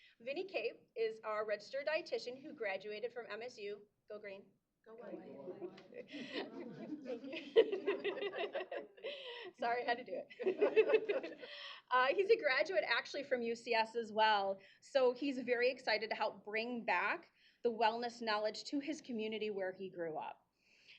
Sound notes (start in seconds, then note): 5.3 laughs